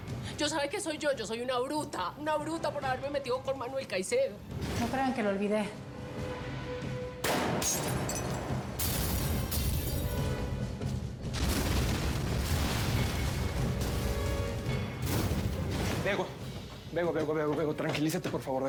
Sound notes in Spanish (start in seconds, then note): 8.0 explosiones